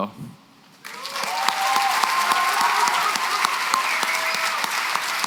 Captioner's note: applause, cheering